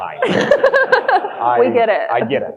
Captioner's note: audience laughing